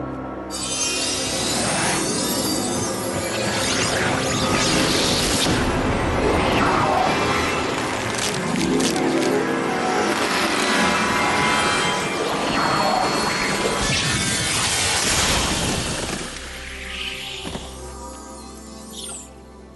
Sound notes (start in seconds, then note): 13.8 zap